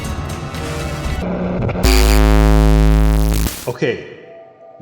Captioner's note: static crackling